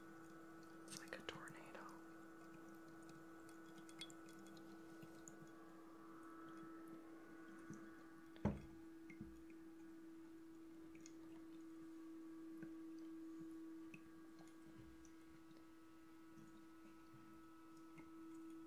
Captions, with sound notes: Its like a tornado (Water Trickling)